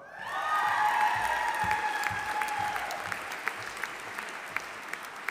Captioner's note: audience applauding